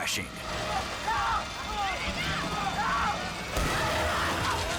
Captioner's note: trainer screams; trainer crashes